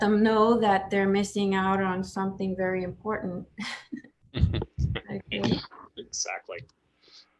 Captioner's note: chuckles